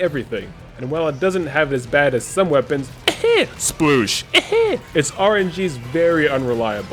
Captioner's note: cough SPLOOSH cough